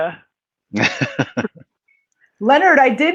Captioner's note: laughs